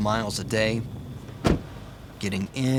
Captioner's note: truck door shutting